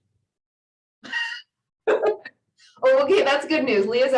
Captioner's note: laughing